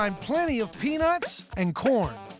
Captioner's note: none